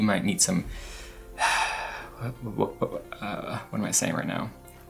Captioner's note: exhales heavily